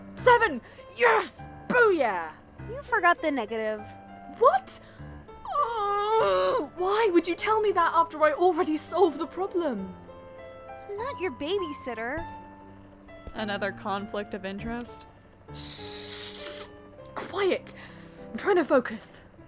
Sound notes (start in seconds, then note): 5.4 angry noises